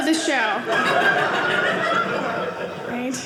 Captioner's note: audience laughing